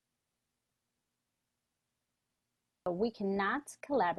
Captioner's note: silence